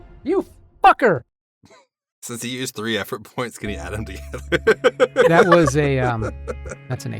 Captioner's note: laughs